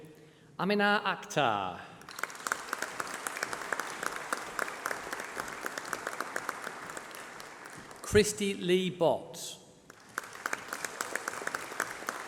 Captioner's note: applause